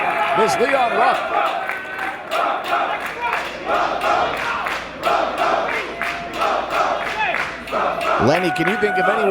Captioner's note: applause